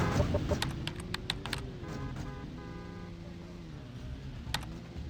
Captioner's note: keyboard clicking